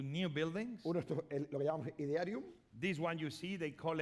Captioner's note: speaking spanish